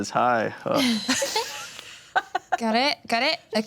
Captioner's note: everyone giggles